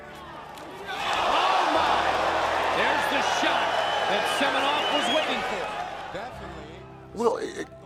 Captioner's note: crowd cheering